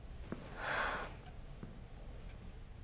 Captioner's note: slGHS